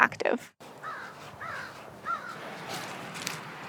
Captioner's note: birds cawing; muffled footsteps